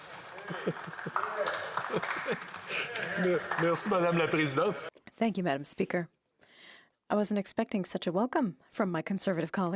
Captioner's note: speaking French